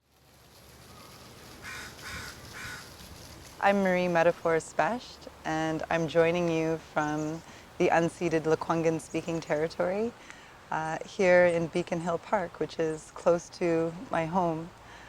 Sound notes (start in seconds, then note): 1.6 crow cawing